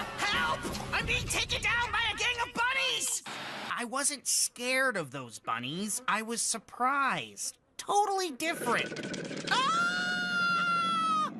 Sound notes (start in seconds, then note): 8.8 growling; 9.5 Scott Screaming